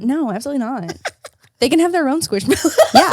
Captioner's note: laughs